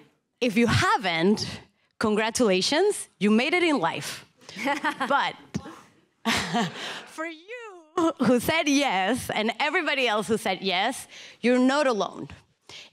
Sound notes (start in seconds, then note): 4.3 laughing; 6.3 chuckling